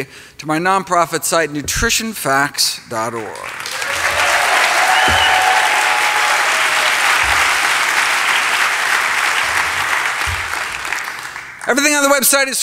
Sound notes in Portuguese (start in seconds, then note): 3.3 Aplausos